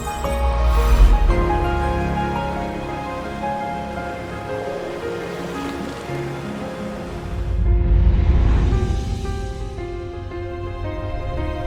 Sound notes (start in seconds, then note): 2.0 sound of waves